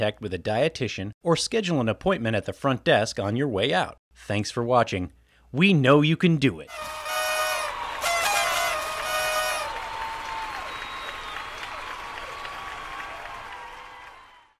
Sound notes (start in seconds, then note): 6.7 horns blaring; 6.7 people cheering